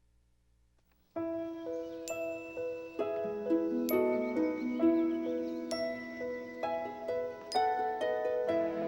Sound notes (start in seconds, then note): 1.2 bright music; 3.4 birds chirping